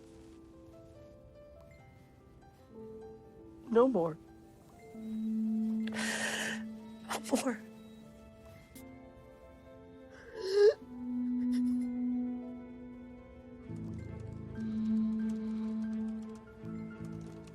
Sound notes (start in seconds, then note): 5.9 gasping; 13.6 typing